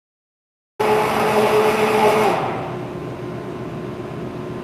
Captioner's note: blender whirring